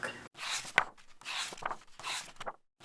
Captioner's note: pages turning